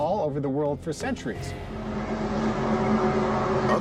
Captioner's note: groaning sound